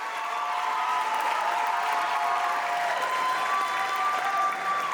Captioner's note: audience applauds